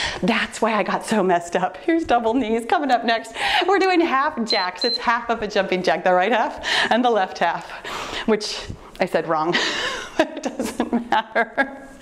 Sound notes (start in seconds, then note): 4.4 timer beeps; 9.6 laughs